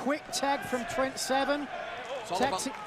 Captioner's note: crowd cheering